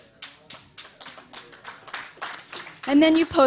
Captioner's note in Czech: potlesk